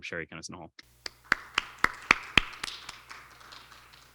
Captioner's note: applauds